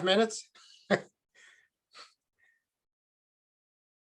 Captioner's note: chuckles